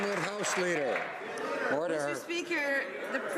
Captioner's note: some Applause